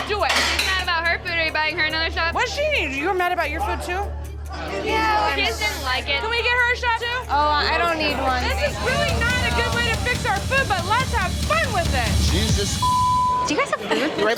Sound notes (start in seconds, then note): 2.4 slurring; 12.7 beep